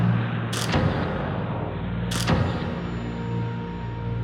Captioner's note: camera shatters